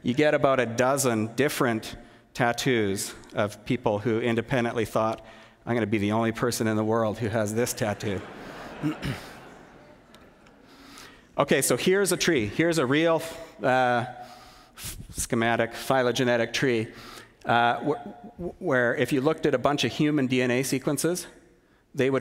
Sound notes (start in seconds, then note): 7.8 laughter